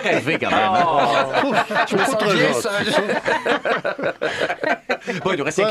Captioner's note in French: rires et brouhaha